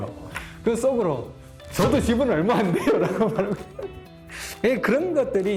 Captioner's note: laugh